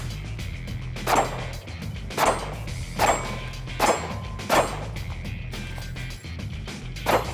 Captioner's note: gunshots